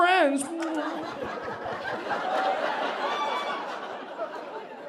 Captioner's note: audience laughing